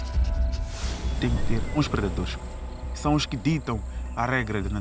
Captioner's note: speaking Portuguese